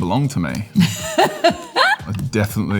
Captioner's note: Laura laughing